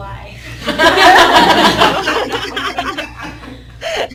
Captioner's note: laughing